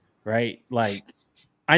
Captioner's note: laughs